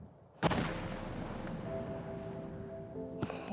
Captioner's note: gun bangs; gentle music